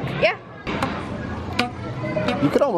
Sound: rubber bands twanging

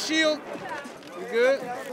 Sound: many people talking

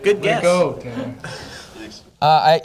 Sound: laughter

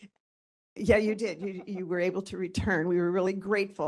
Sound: laughing

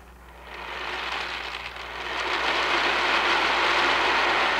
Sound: rustling

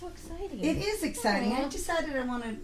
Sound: voiceover

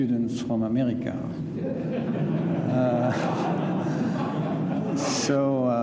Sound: laughter

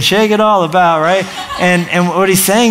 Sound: laughter

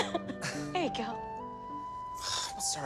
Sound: laughs; sighs

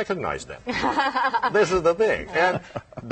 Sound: laughter

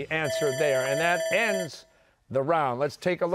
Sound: bell ringing

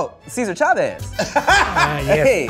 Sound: laughing

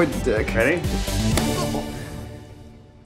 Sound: thwacking spaghetti

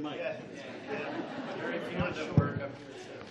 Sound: laughs

